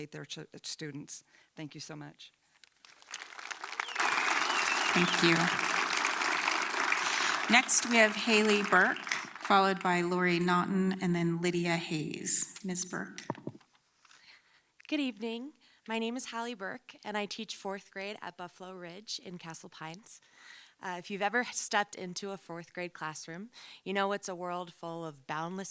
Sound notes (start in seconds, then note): 6.7 applause